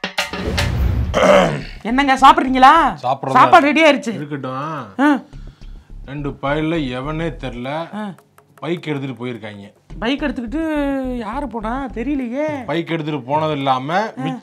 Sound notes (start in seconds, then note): 1.2 clears throat